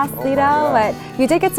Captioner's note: murmurs